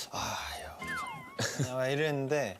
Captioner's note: haha